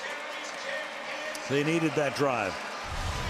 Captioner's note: pa announcement